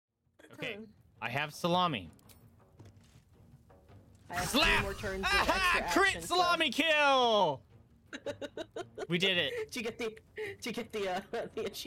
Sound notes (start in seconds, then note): 8.1 chuckling; 10.6 laughing